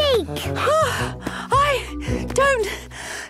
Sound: panting

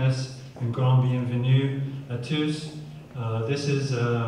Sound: speaking french

